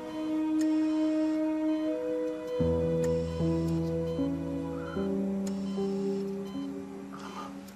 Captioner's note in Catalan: pip-pip-pip-pip